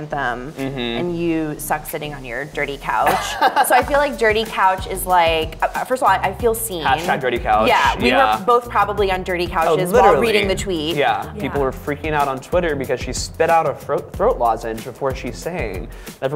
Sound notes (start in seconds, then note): 3.0 laughing